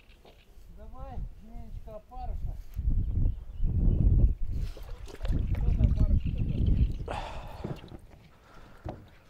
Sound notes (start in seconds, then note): 0.9 man speaking in foreign language; 4.6 water splashing